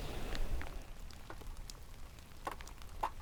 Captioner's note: rain falling